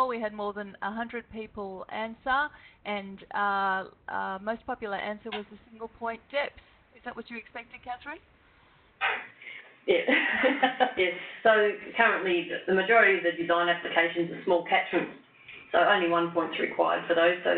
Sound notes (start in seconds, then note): 10.6 laughs